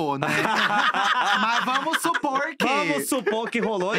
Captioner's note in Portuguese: risos